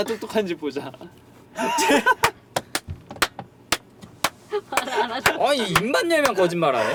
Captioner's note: laughter